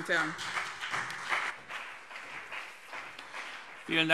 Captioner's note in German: Beifall BÜNDNIS 90/DIE GRÜNEN und vereinzelt CDU